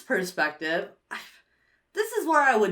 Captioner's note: sighs